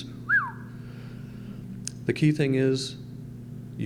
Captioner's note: whistle